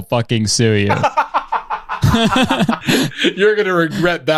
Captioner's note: laughs